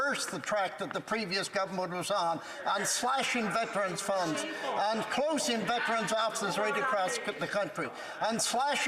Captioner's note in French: voix de l'interprète